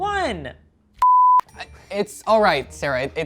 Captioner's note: beep